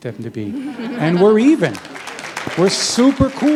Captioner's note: chuckle; applause